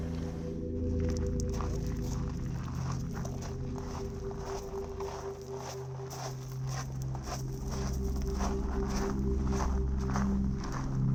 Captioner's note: feet shuffling along dirt pathway